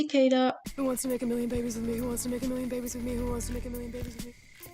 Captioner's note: cicada